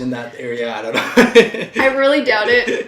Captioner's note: both laughing